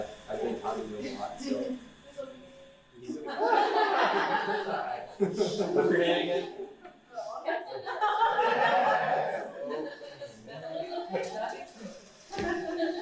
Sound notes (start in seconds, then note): 3.2 all laugh; 7.5 woman mumbles under all laughing